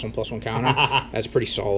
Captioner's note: laughs